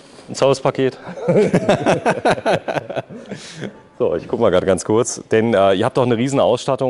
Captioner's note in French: Rire